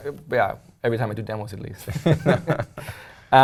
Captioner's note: laugh